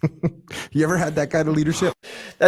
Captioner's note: both laughing